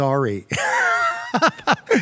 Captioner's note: laughs